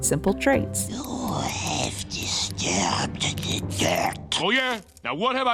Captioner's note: Moliere whispers